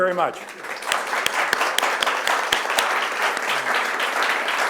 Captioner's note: audience applauding